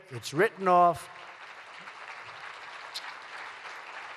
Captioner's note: applause